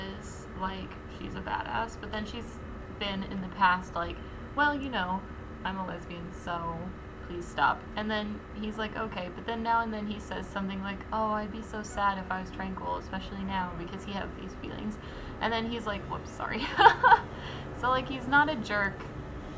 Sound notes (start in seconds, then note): 16.6 laughs